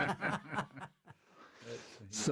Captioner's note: laughter